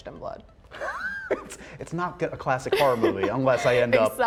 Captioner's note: laughs